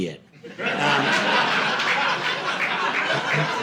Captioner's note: audience laughing